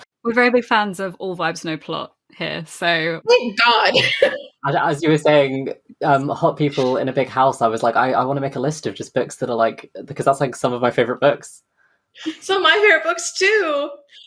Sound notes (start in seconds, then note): 4.6 laughs; 11.6 laughs